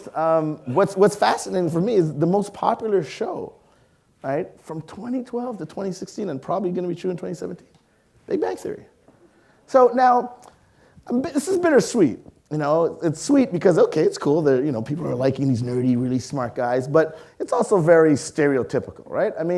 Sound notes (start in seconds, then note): none